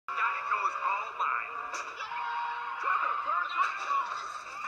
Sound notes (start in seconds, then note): 2.0 screaming